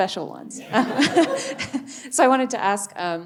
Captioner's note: audience laughing